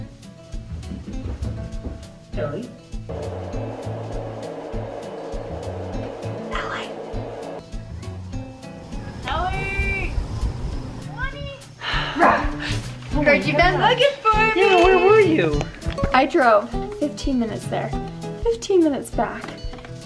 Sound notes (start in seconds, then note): 6.6 whispers